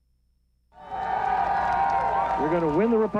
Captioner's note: cheering